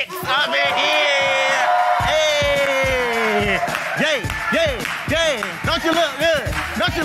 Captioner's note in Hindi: भीड़ द्वारा जय जयकार करते हुए